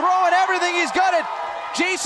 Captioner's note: cheers & applause